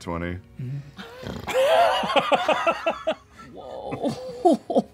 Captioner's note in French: ronflement sexy; rire